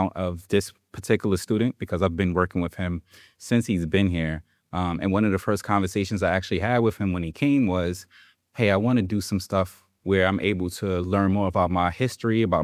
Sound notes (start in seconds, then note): none